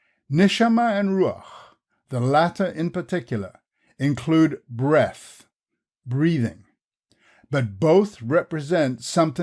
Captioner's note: breathing